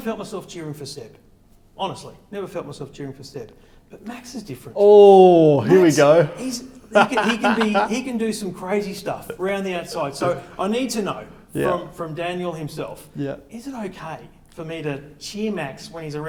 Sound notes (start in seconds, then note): 5.2 laughs